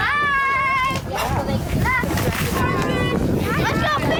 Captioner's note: kids chattering